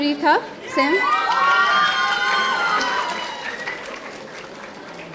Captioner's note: audience cheering